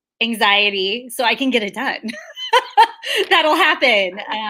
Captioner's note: laughs